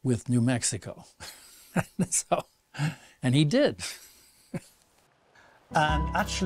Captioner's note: laughs; laughs